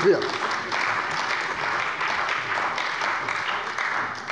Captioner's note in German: Beifall bei der CDU und dem BÜNDNIS 90/DIE GRÜNEN